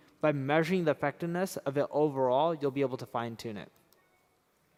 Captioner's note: none